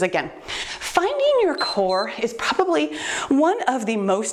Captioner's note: timer beeps